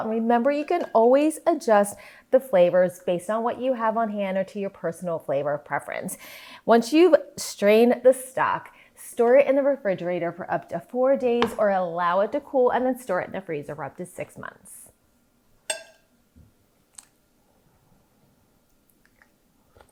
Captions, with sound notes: and remember, you can always adjust the flavors based on what you have on hand or to your personal flavor preference. Once you've strained the stock, store it in the refrigerator for up to four days, or allow it to cool and then store it in the freezer for up to six months. (spoon banging)